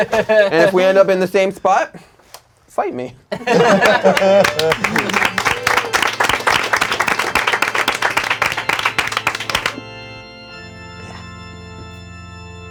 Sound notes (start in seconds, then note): 3.4 crowd laughing; 3.5 organ music playing; 3.5 crowd applauding